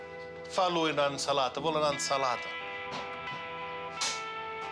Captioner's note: speaking Italian